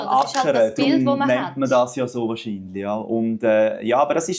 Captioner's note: plowing